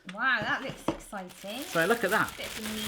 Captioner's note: plastic crumpling